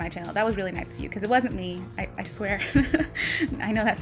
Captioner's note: nervous laugh